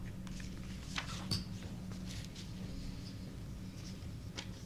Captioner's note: papers rustling